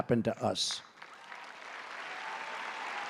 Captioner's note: applause